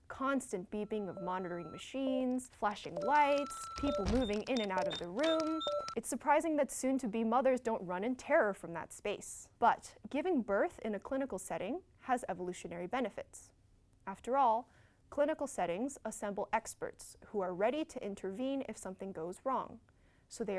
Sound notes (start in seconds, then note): 2.6 SFX: monitor beeps; 2.8 SFX: typing noises; 3.0 SFX: door opens and closes